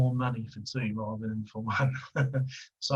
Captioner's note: laughing